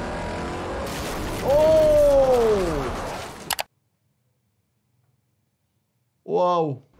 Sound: engine revs; body thuds

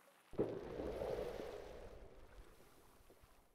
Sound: cannon shot

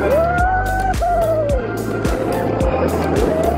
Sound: whooping

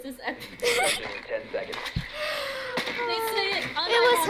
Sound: laughs

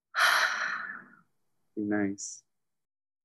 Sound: breathes out heavily

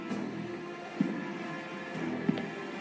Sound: footsteps approaching

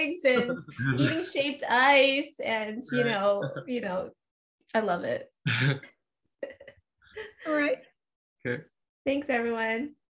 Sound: laughter

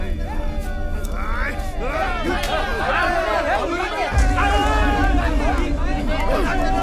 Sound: Malay Language

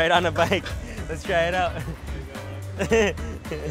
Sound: laughs

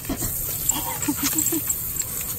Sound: laughs

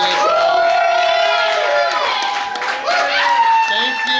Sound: crowd cheering and applauding

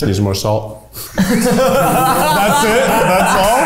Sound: all laugh

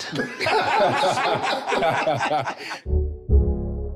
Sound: everyone laughing amusingly; feel-good rhythmic music

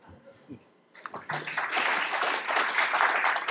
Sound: applause

